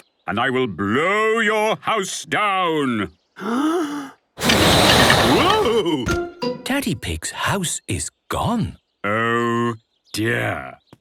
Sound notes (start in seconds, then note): 3.4 inhaling deeply; 4.4 blowing